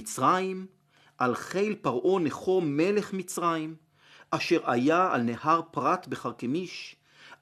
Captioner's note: Hebrew